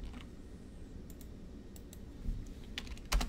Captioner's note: keyboard typing; mouse clicks; keyboard typing